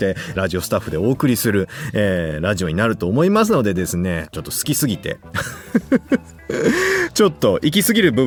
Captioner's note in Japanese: 笑い